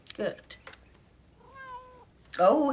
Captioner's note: cat meows